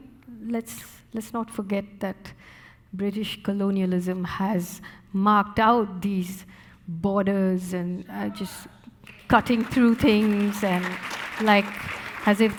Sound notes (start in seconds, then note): 8.4 muffled shout from audience; 9.0 audience applauding